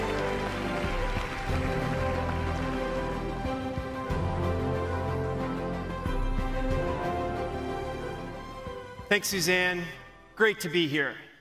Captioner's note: applause